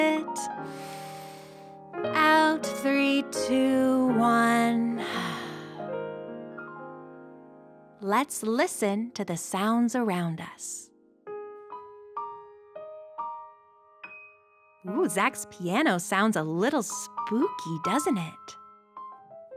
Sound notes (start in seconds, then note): 5.2 exhales; 11.2 spooky piano music